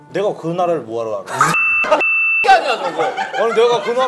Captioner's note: cussing